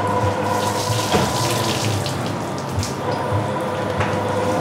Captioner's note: whirring of the washing drums, splashing